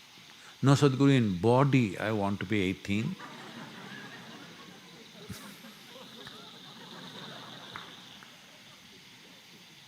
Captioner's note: laughter